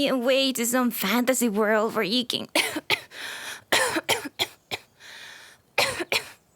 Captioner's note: coughing fit